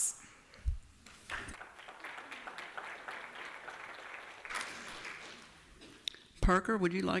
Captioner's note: applause